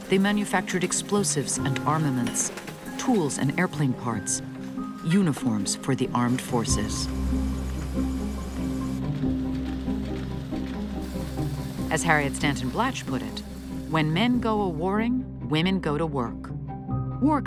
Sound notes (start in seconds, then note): 9.0 machinery clicking